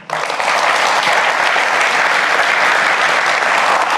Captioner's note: applause